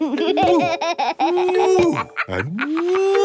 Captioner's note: laughs